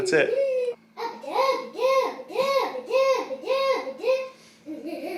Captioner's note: baby mumbling